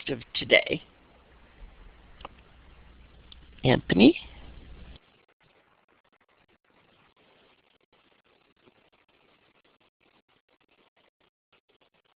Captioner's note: silence from 00:12:29 to 00:13:03